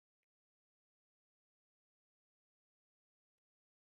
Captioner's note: none